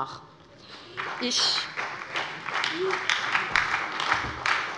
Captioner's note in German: Beifall bei der SPD